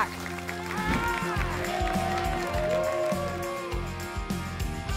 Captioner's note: applause and cheering cont